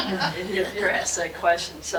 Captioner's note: audience laughing